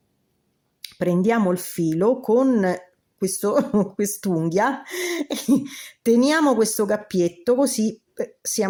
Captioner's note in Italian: risate